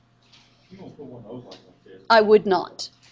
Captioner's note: student speaks faintly